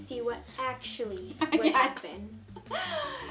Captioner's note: laughs